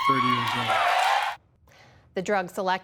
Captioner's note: applause; cheering